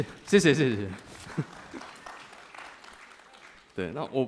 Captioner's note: applause